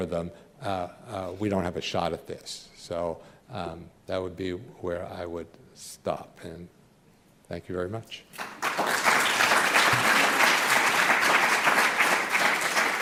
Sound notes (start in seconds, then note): 8.3 applause